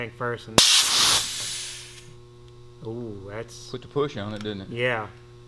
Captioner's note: air gushing